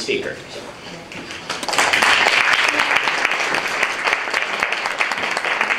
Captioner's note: applause